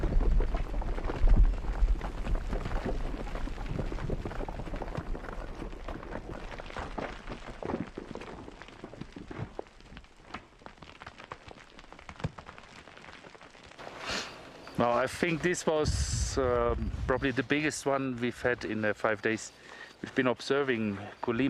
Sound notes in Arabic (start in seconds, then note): 0.0 فرقعة